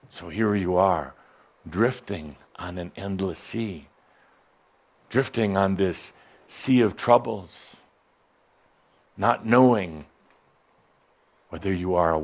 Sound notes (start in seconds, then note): none